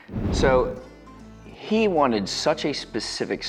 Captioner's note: graphics whooshing